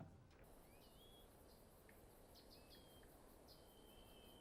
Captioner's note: birds chirping